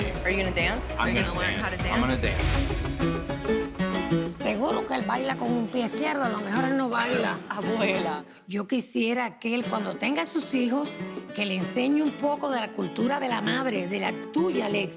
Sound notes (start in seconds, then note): 4.6 speaks Spanish